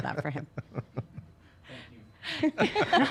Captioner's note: laughs